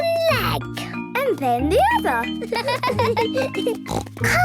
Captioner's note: laughs; snort